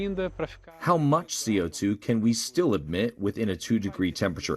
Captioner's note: voice-over